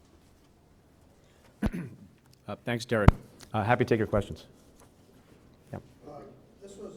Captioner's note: clears throat